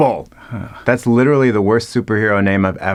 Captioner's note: Jeremy groaning